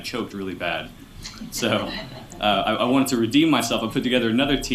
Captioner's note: laughter